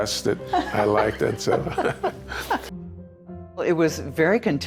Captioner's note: both laughing